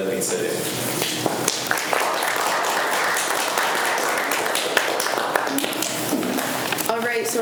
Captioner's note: students applaud